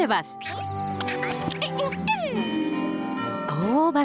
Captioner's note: caterpillar noises